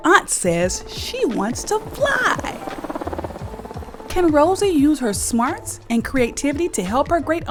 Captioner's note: helicopter sound